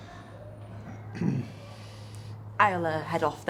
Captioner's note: Jamie clears throat